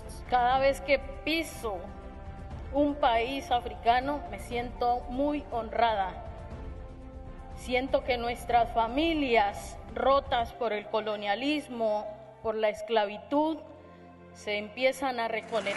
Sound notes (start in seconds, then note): 0.2 Spanish; 15.6 applause